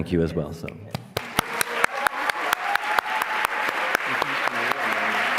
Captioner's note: applause